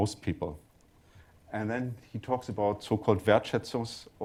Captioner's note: german